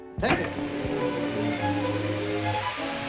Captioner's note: whooshing